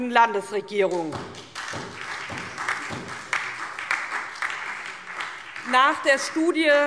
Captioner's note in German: Beifall